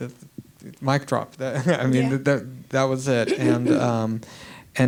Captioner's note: laughs